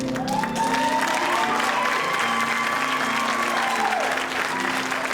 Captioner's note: audience applauding and cheering